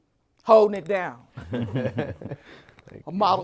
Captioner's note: panel chuckles